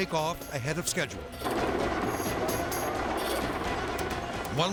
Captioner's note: intense music; helicopter blades whirring